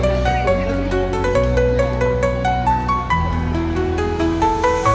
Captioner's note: trams